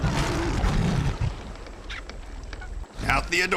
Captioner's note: rugido de león